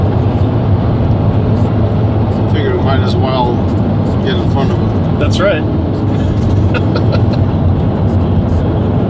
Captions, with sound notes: I figure we might as well get in front of them. That's right. [Laughs]